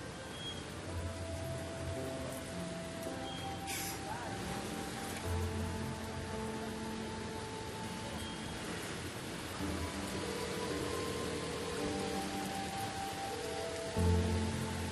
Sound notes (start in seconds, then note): 3.7 quenched sigh; 10.2 phone dialing